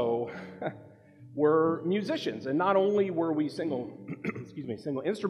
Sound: chuckles

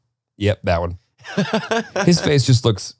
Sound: laughs

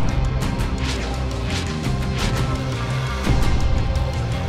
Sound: flares whooshing

